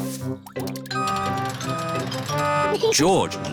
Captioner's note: crane beeping